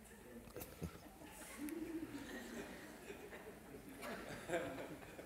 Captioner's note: laughter